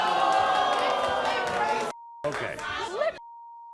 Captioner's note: audience groans